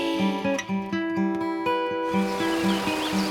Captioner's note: birds singing